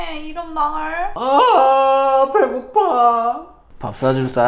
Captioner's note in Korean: 소리지름